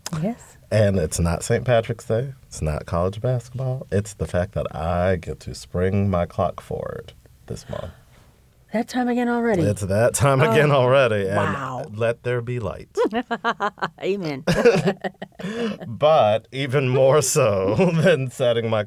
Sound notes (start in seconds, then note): 13.0 laughter